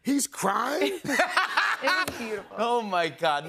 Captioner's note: laughter